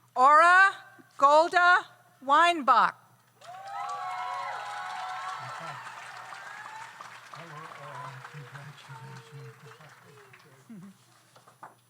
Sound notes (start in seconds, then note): 3.4 audience cheers; 3.4 audience applauds